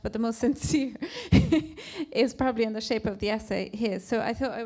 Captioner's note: chuckles